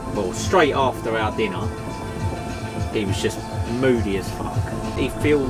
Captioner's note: sound of an engine shutting down